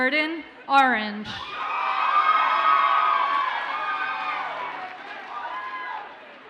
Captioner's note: audience cheers and applauds